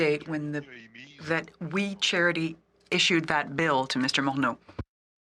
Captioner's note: speaking French